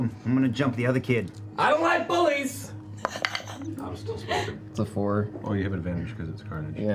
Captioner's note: shouting